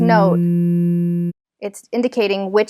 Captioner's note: electronic buzzing